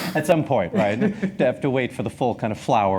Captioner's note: chuckles; laughs